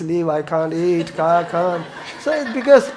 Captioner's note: audience laughs